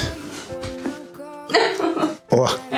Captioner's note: crunches of bones; laugh